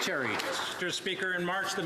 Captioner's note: some Applause